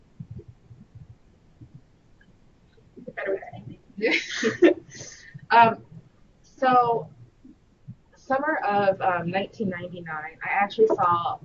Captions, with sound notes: - Better way, I think. (chuckles) - So, summer of 1999, I actually saw a flyer,